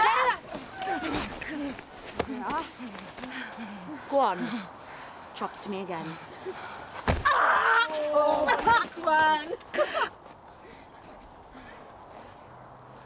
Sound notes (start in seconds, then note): 7.0 punch; 7.2 girls jeer; 7.2 kasia screams; 8.1 laughs